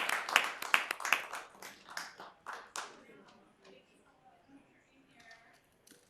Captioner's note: applause